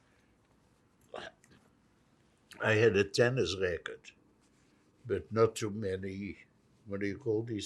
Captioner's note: throat-sound